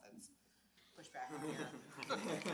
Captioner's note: audience laughs